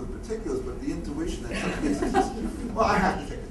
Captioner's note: laughter